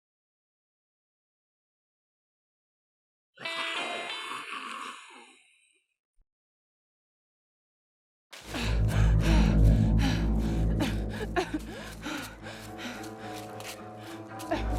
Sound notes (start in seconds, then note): 3.1 calm music; 3.1 zombie grumbling; 8.4 runner panting